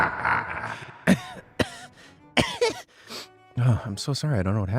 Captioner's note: coughing